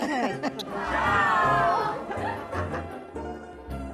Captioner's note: laughter